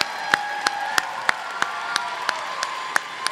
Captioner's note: applause